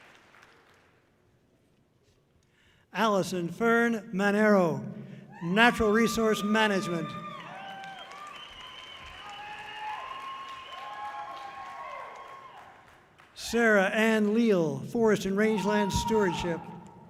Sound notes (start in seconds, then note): 7.4 audience cheering loudly; 10.9 audience cheering loudly; 16.9 audience cheering loudly